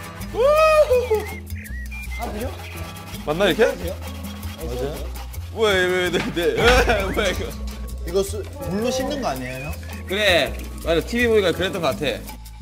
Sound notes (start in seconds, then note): 0.3 tears